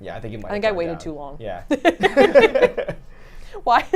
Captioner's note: laughing